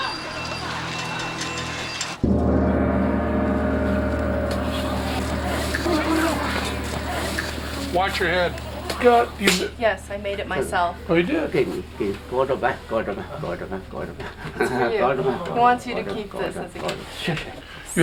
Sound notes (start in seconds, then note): 11.4 non-english speech